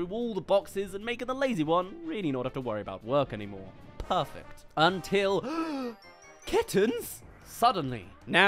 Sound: gasp

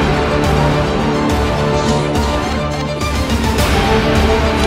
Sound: coughing

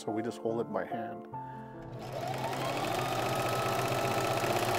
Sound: machine whirring; gentle piano music continues

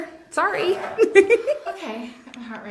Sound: laughs

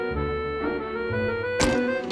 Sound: click

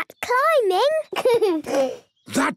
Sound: giggles

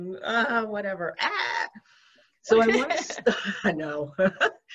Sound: laughs

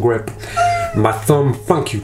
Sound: yelps

